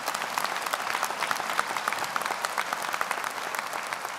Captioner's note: audience applauds